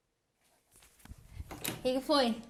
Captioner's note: door opens